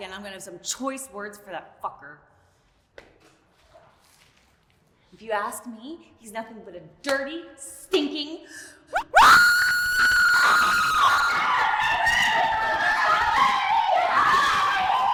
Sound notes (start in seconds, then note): 8.9 screaming; 12.2 both screaming